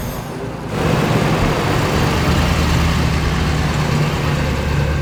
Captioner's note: engine rumbling